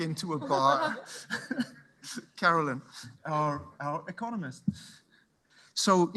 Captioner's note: chuckles